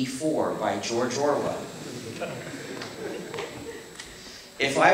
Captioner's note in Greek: Γέλια από το ακροατήριιο